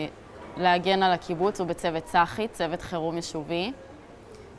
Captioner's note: hebrew